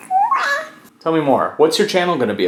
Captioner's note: baby coos